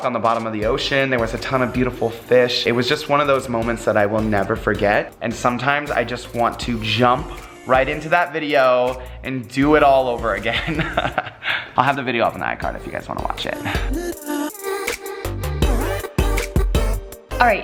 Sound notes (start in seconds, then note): 10.6 laughs; 14.5 upbeat pop music